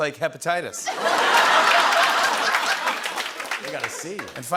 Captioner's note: laughter